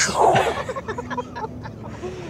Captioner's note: laughs